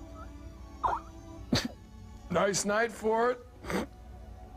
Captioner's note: coughing and wheezing